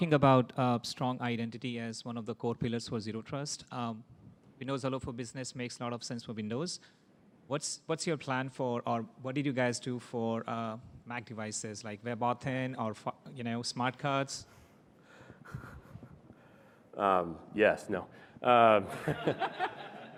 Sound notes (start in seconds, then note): 15.8 laughter